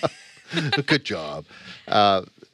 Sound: laughs

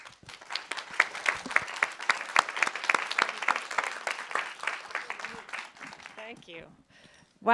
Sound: applause

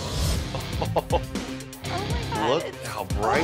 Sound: laughs

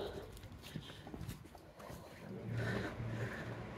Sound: panting heavily

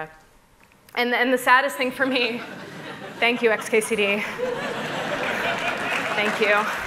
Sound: laughter

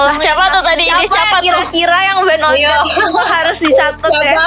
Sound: laughter

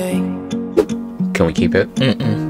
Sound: whoosh Swoosh

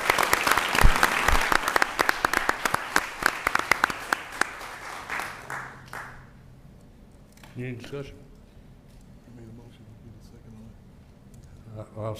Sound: applause

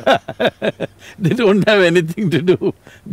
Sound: laughs

